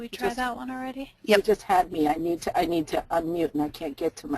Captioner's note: voiceover